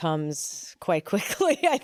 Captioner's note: laughs